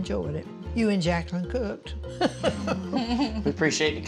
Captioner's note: laughing